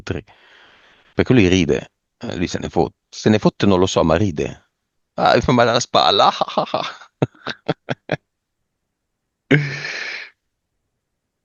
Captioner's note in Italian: risate